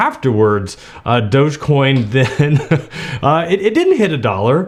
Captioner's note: laughing